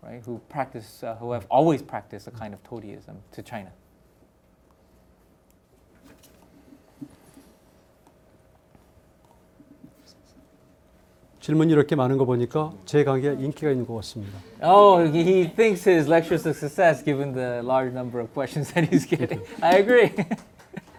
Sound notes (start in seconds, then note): 11.7 speaking in Korean; 18.6 laughs